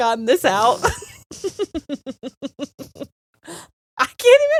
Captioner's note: both laughing